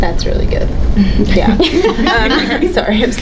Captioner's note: panelists laughing